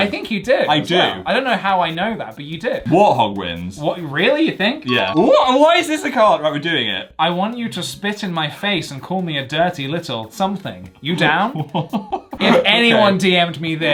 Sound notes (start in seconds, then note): 4.9 bell chimes; 11.1 laughs